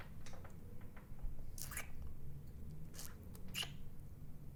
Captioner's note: kissing